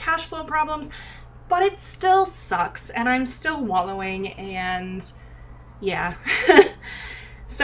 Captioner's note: laughs